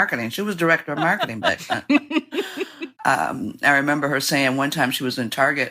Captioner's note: laughter